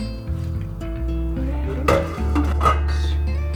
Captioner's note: pot making noise